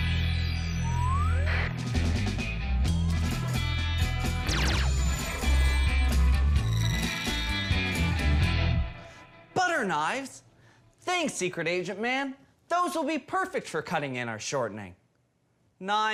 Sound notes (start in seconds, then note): 4.4 laser sfx